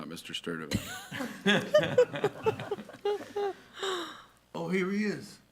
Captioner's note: attendees laughing